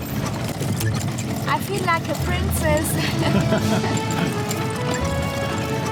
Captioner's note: laughing